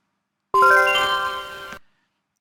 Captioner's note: computer chimes